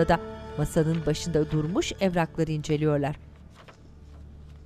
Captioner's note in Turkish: Kâğıt hışırtısı sesleri